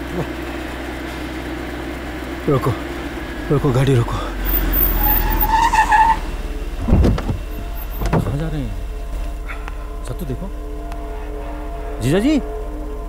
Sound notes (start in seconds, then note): 4.7 Brakes squeal